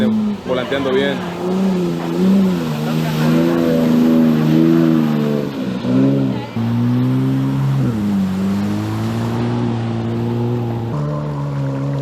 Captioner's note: engine revving